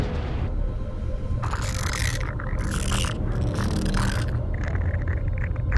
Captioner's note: speaking in alien language